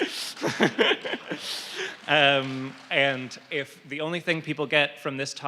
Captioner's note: laughter and applause